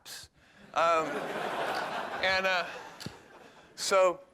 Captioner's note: laughter